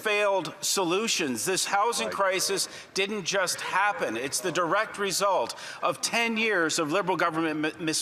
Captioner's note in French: voix de l'interprète